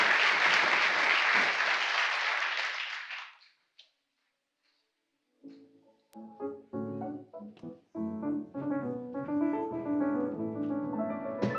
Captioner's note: applause